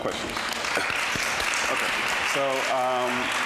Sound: audience applauding

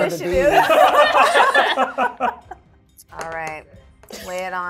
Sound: participants laughing

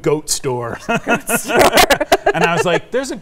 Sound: both laugh

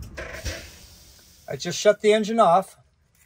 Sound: engine hisses

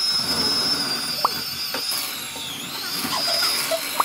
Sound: powder blowing

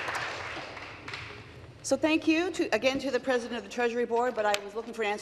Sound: applause

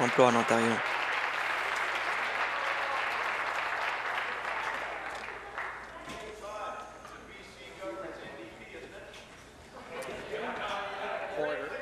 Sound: applause

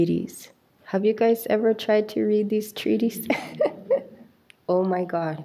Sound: chuckles

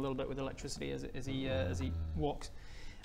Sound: dubious noises

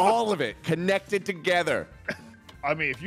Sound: everyone arguing

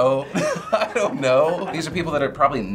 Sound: chuckling

